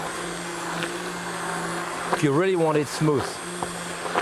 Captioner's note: blender whirring